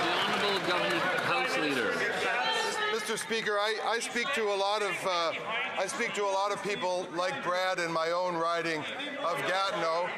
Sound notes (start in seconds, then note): 3.6 some Applause